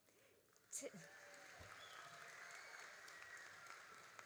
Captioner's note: all applauding